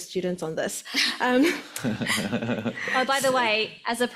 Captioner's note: laughs